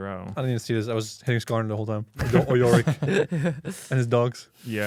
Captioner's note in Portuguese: risos